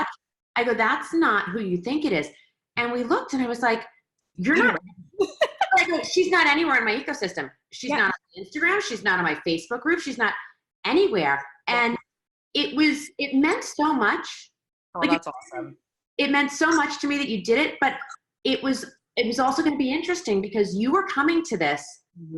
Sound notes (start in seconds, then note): 4.6 laughing